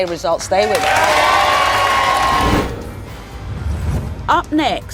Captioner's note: audience cheering